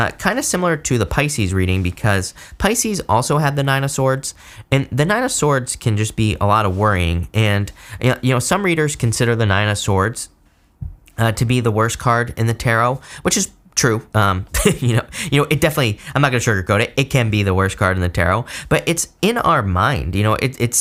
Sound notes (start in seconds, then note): 14.5 reader laughs